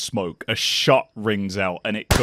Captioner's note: gun shot